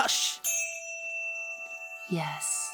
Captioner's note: chime